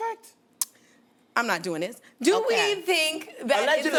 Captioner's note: clicks tongue